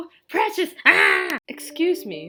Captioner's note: insert unhinged battle cry?